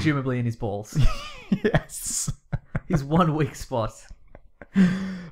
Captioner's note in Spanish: Risas